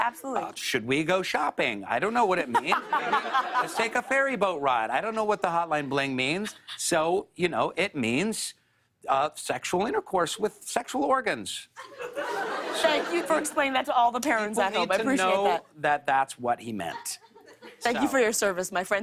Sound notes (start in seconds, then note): 11.8 laughter